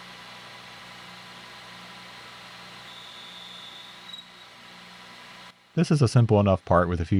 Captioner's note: machine whirring